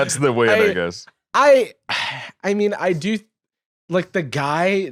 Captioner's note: sighs